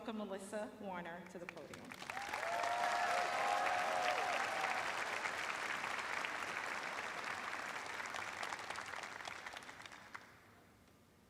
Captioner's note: cheers and applause